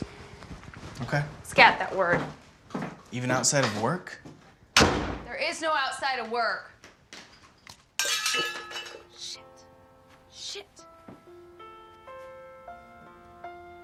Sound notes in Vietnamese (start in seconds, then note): 4.7 đóng sầm cửa